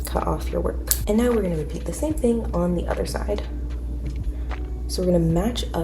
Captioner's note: scissor cuts